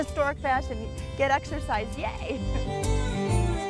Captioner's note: laughs